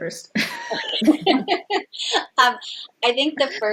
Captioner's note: all laughs